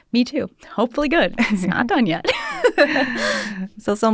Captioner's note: laughter